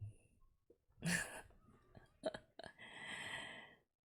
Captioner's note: laughs